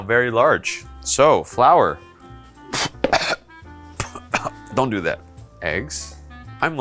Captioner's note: coughing